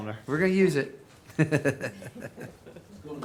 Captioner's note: laughs